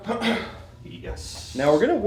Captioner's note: clears throat